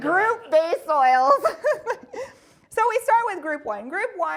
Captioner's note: laughing